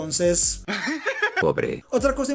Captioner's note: laughs